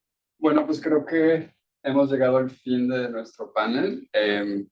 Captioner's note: speaking Spanish